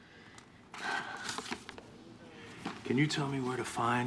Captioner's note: sighs